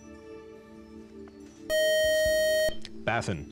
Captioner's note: time out buzzer